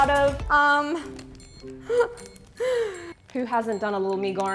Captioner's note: inhales shockingly